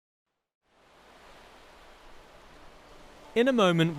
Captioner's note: waves rushing